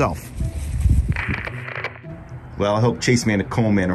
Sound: static crackles

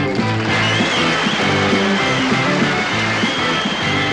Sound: crowd cheering

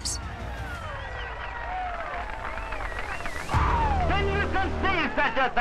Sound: crowd cheering

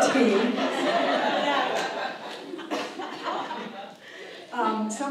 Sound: audience laughs

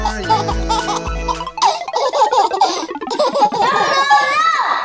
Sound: baby laughing

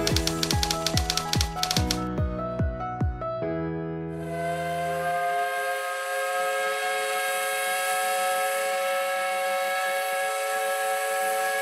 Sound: steam whistle blowing

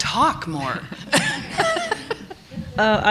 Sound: laughter

